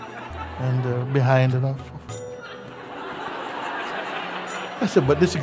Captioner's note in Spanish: risas